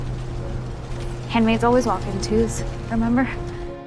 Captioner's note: voiceover